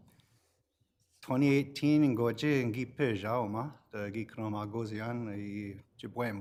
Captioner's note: speaks foreign language